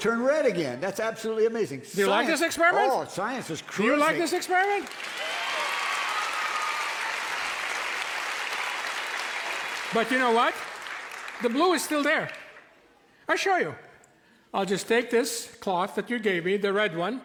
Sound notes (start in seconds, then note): 5.2 cheers and applause